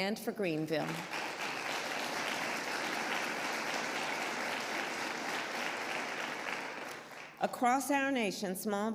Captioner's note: applause